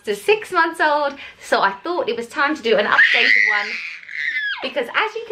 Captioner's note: baby crying